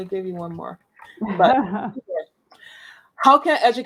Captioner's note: laughs